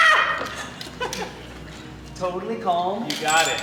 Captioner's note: people laughing